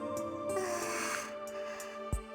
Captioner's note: relieved sigh